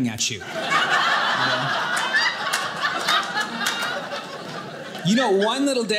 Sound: audience laughing

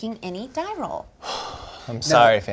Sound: he sighs

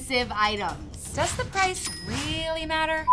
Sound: till rings

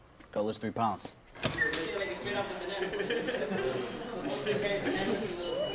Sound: boys laughing

